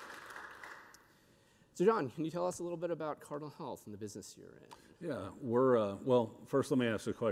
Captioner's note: applause